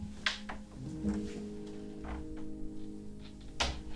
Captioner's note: door closes; tense music